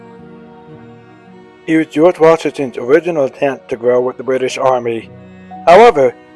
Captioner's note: voiceover